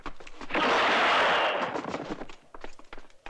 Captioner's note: grunts